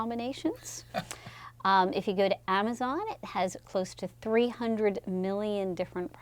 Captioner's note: laugh